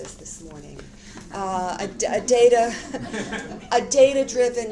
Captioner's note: audience laughter